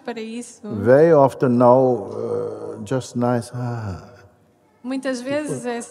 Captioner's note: slow sigh